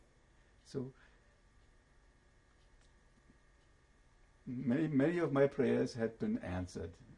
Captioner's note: pauses for 3 seconds